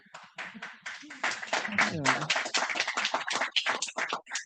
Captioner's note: audience clapping